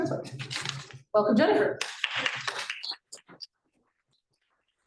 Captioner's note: appluse